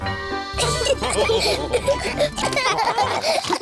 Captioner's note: all laugh